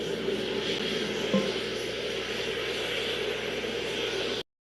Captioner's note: people Talking